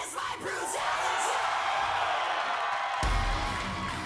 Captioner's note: crowd cheers; crowd applause